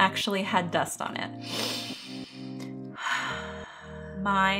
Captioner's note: breathes deeply